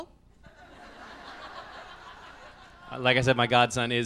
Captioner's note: laughs